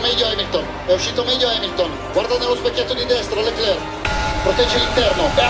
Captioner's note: commentator in Italian